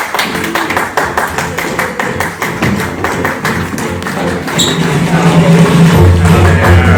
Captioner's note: applause heightens